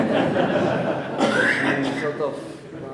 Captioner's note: audience laughing